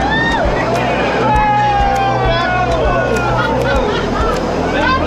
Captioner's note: crowd cheers